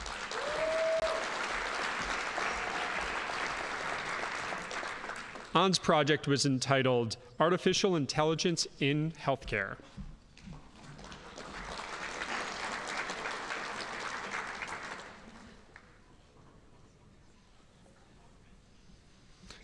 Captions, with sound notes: (audience applauding) Ann's project was entitled Artificial Intelligence in Healthcare. (audience applauding)